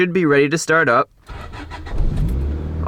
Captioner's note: engine starts